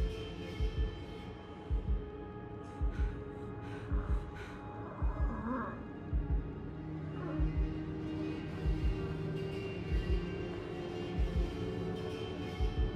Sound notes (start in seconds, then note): 2.6 heavy breathing